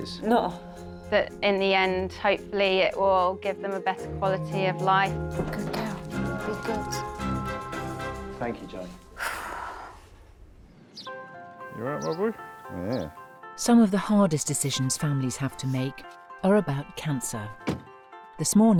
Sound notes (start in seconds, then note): 7.7 upbeat music; 9.1 owner sighs; 11.3 bright music